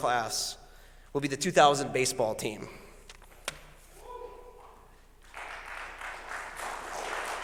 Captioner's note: applause